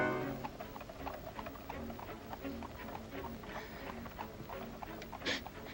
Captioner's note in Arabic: موسيقى درامية مثيرة للتشويق; موسيقى متوترة; ضربات حوافر; تلهث